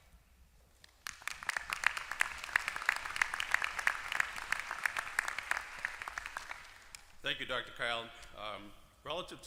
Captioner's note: applause